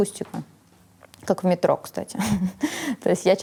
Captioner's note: chuckles